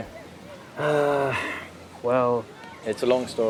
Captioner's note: sighs